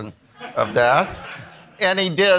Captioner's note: attendees laughing